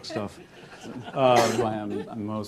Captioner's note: laughter